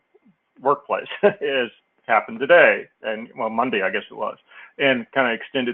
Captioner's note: laugh